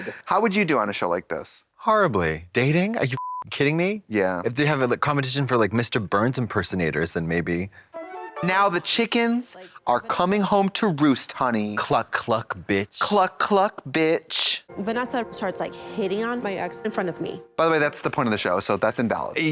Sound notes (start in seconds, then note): 3.1 beep